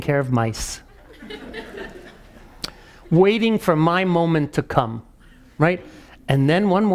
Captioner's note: laugh